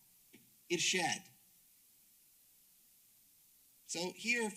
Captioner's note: speaks Arabic